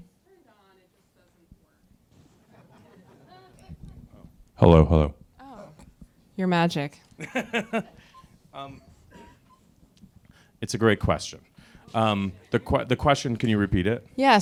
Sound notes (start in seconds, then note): 2.2 crowd laughs; 7.2 laughs